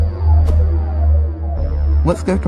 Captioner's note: swoosh